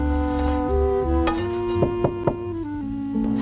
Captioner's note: knock On Door